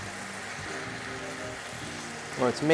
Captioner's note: sizzling